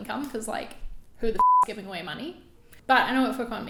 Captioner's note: beep